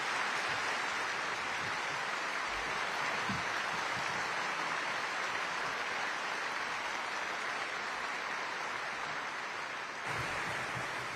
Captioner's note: applause